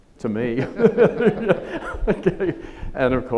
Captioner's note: chuckles